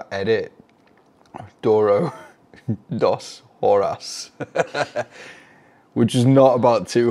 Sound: laughs

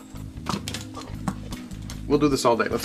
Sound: dog chomps on ball

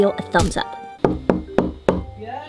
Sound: knock, knock, knock

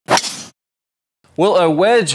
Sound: ball thwacking

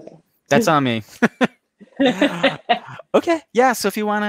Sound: both laughing

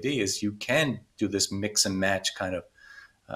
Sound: none

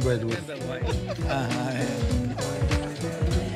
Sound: laughing; gentle music

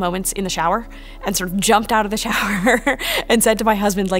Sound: laughing

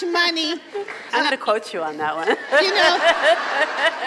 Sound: laughs

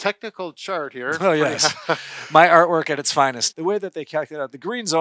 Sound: chuckles

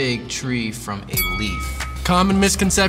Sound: bell dings

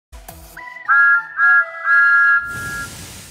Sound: thomas whistles

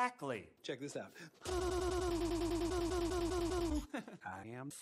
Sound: stutters while dancing; chuckles

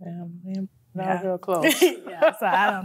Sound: laughs

